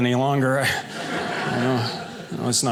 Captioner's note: audience laughing